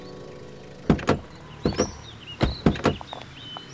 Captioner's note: Car doors opening